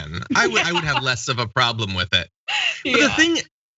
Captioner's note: laugh